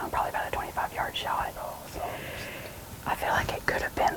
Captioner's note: whispering